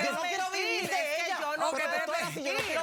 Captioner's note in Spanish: comentarios al unísono